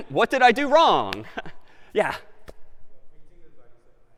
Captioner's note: laughs